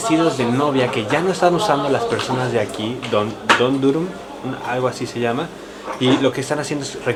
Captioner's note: Turkish